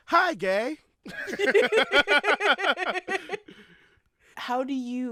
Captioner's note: laughter